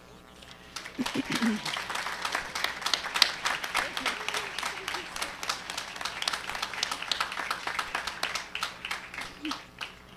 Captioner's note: applause